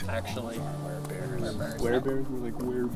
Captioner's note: quietly